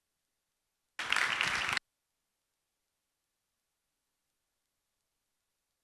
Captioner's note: applause